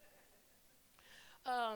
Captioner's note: laughter